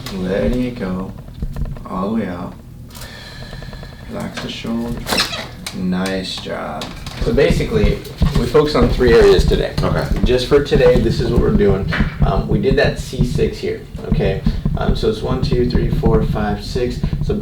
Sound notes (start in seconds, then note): 2.9 patient sighs